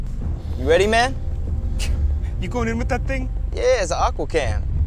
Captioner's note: scoffs